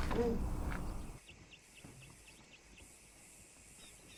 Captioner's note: birds chirping